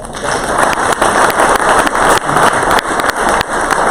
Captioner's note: crowd applause